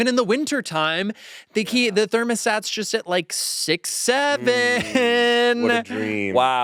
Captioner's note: laughs